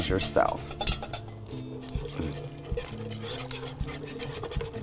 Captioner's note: whisk scraping